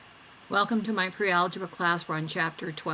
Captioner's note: voiceover